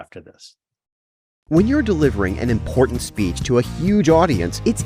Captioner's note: voiceover